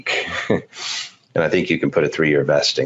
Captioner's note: laughs